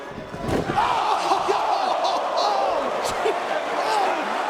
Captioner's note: spectators exclaiming; chuckling